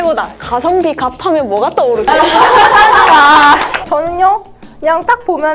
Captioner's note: laughter